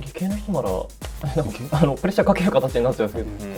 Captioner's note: laugh